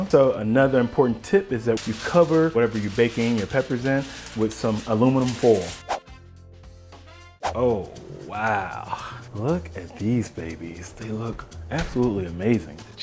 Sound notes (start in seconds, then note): 7.4 whooshing